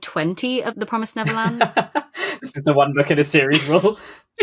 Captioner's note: laughs